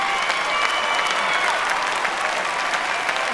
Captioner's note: cheering